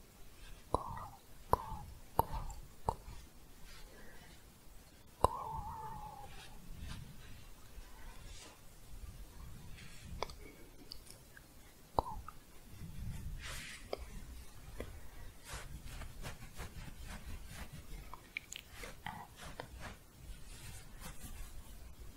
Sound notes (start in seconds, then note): 7.0 quiet shuffling; 14.9 scratching; 19.9 scratching